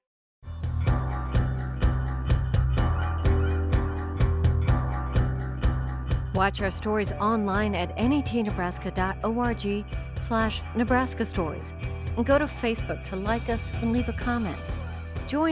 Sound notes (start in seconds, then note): 0.6 pulsing rock music; 6.4 voiceover